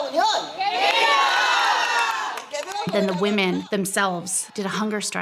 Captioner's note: shouting together in Spanish